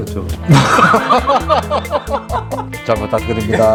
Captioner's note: ahaha